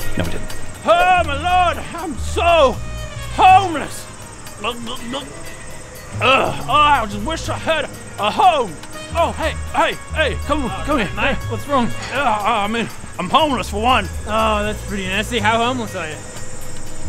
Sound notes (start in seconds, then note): 4.6 glug glug glug